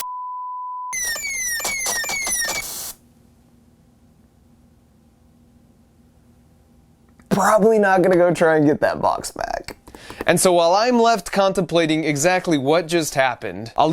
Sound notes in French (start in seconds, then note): 0.9 l'alarme retentit; 1.2 des coups de feu éclatent